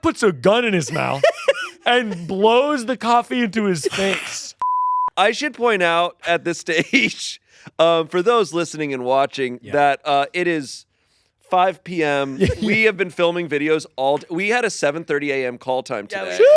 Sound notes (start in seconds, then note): 4.6 tone beeping